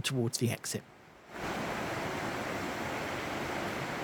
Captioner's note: sound of rushing water